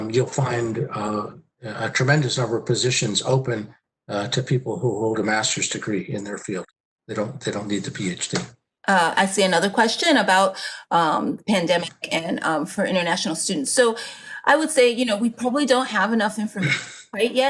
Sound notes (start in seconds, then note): 12.3 murmurs